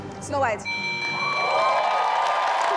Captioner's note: bell ringing; audience applauding; audience cheering